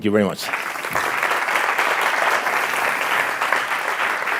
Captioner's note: audience applauding